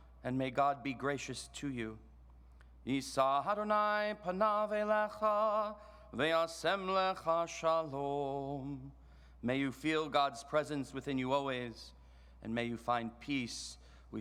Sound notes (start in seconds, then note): 2.9 chants in foreign language